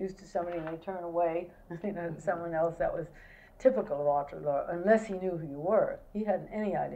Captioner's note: laughs